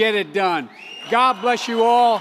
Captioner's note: applause